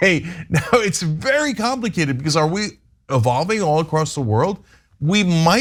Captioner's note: laugh